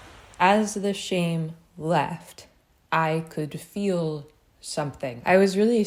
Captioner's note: ocean sounds